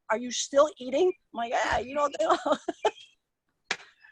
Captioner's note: laughs